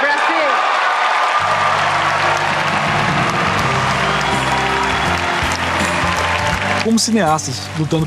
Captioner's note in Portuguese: aplausos